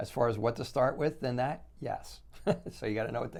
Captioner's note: laughs